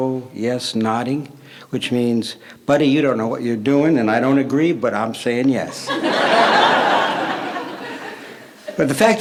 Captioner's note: laughter